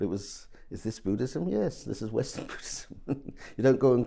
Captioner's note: chuckles